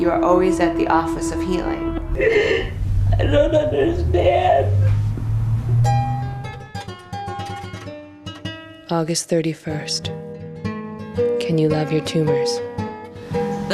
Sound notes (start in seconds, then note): 8.4 crying